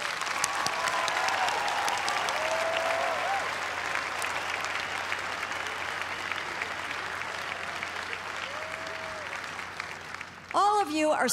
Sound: applause

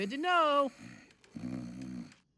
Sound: snoring continues

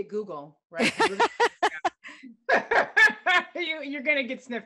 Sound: laughter

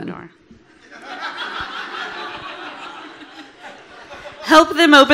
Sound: audience laughing

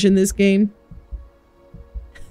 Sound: laughs

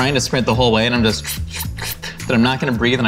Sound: sucking

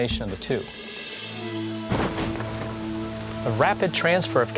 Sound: cars crashing

